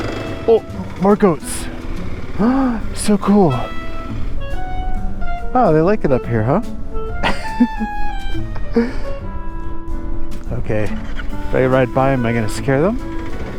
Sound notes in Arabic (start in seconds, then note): 2.0 يلهث; 7.2 يضحك